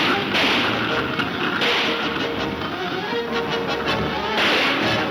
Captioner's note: gunshots banging